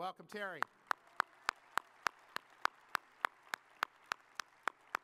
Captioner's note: audience applauding